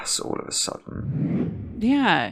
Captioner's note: air whooshing